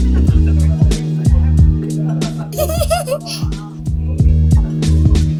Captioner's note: giggling